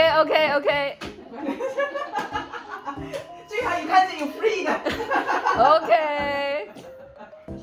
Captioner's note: adults laughing; laughing